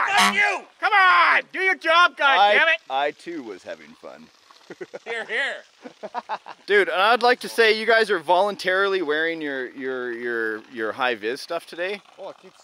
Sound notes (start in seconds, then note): 5.8 laughing